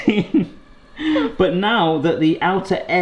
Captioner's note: laughing